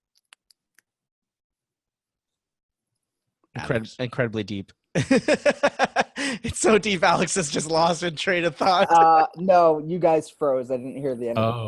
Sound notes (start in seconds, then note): 4.9 laughs